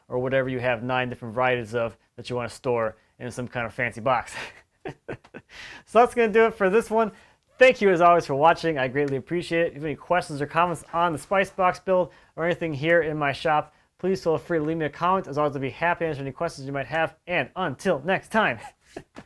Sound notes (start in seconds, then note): 4.7 laughing; 18.6 laughing